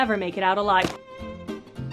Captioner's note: splat